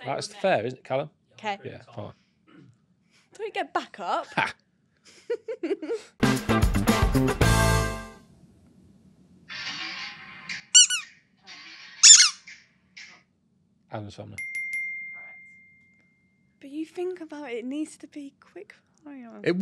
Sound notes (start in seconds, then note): 5.0 laughs; 6.2 lively music; 10.7 ball squeaks; 14.4 bell dings